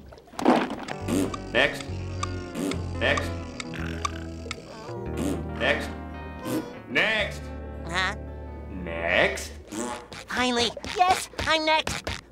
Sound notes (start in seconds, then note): 0.8 raspberry; 3.9 snoring; 4.8 raspberry; 9.6 raspberry